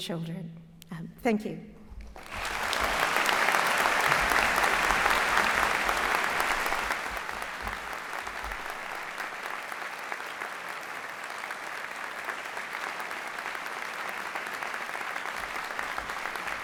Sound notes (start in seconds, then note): 2.3 applause